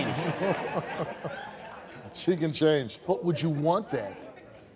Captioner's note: laughs